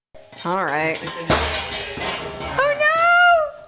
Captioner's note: pot clanking